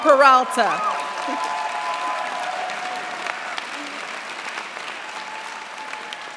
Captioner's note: cheers, applause